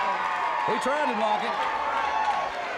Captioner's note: audience cheers